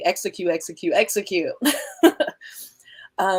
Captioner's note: chuckle